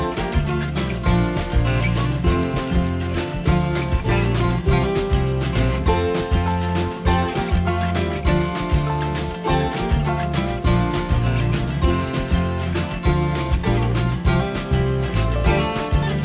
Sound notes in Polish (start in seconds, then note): 1.7 Aplauz